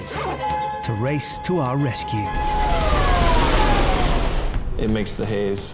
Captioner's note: alarms ringing